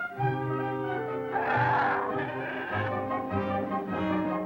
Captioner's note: growling